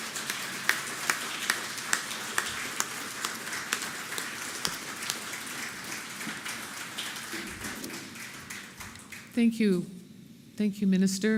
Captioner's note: applause